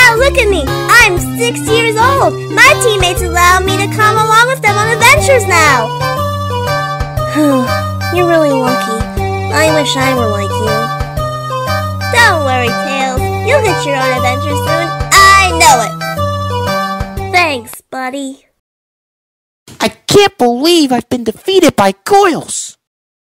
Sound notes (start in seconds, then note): 7.3 sighs